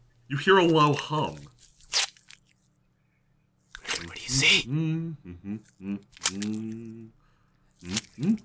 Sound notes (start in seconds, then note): 3.6 gross squishy sound; 4.2 hushed; 4.7 humming; 6.2 crack; 6.2 humming